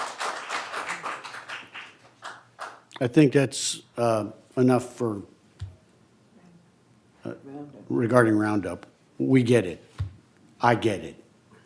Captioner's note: applause